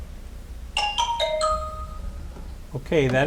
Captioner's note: chimes chiming